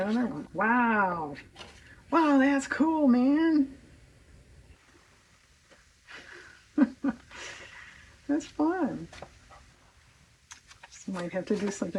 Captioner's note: laughs